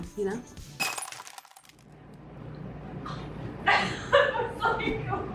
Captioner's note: mirror shatters